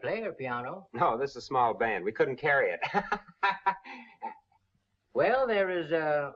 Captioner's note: laughs